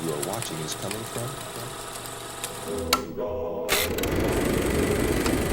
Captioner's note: projector clicking